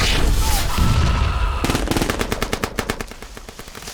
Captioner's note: shouting